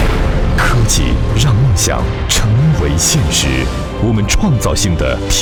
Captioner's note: thud resounds; speaks foreign language